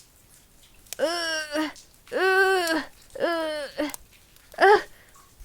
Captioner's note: Ezrak grunting